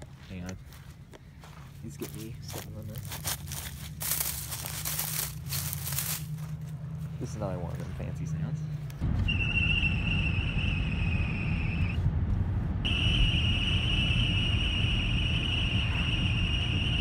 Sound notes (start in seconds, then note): 3.0 dry, crunching grass; 9.1 air screeching through cracked car window